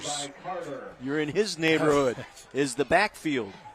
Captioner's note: laughter